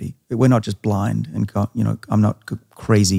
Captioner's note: stammers